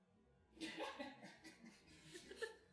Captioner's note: snigger